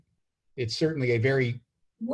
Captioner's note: hesitant